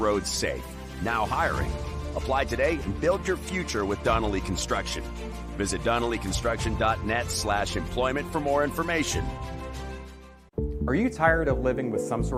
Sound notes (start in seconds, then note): none